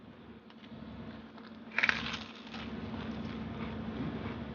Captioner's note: crunches